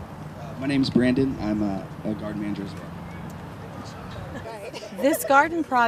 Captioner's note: laughter